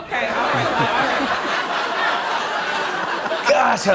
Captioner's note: laughter